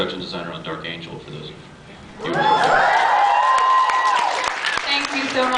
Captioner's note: cheers